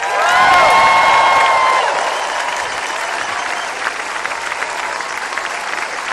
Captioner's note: applause